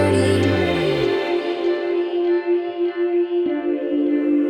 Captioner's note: space echo!